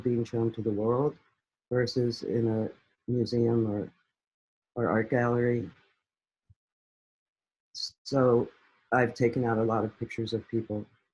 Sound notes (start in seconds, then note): none